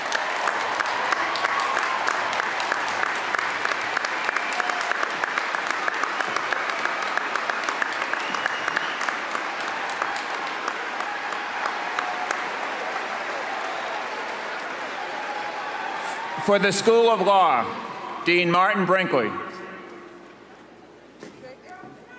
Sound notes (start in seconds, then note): 3.9 cheers and applause